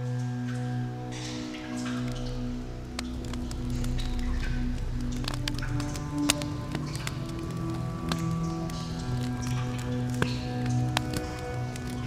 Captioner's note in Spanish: Chisporroteos de fogata